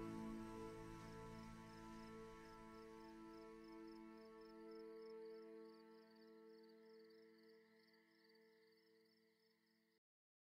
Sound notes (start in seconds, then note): 0.0 crickets